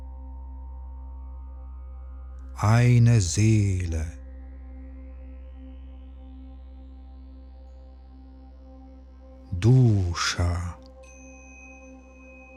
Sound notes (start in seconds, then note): 4.1 german